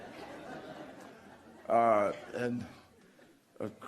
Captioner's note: laughter